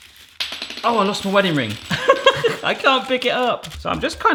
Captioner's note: laughing